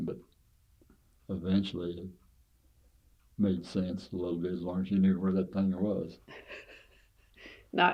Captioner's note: laughs